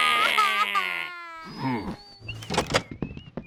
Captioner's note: both crying; grunt